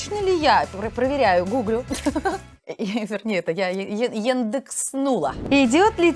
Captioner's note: laughing